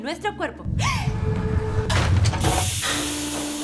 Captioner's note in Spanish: contiene la respiración; se escucha un ruido grave y maquinaria